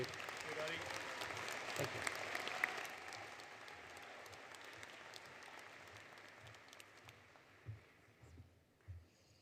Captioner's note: applause